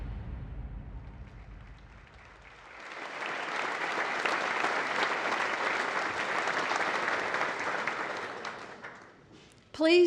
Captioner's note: applause